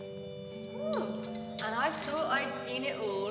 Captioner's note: sound of handcuffs rattling